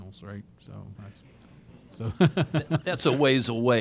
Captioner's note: laughter